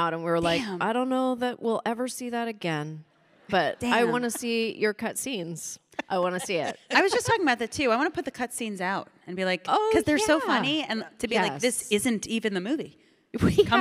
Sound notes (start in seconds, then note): 3.6 audience chuckling